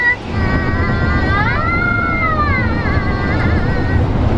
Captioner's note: kids vocalizing